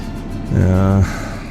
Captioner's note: sigh